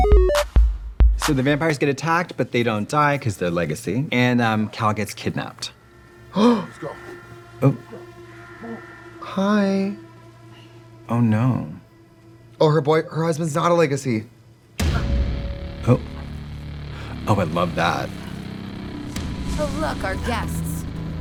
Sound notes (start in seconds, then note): 0.0 bright electronic music; 6.5 Trixie gasps; 8.2 tense music; 14.9 tense dramatic music